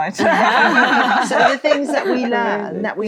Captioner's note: all laughing